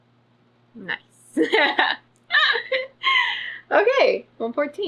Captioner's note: laughs